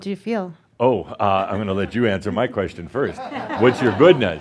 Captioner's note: some laughter